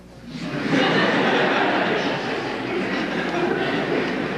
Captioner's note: laughter